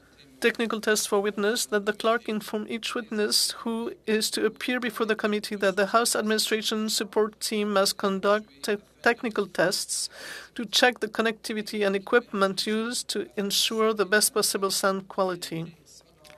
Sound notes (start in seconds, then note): 3.4 speaking French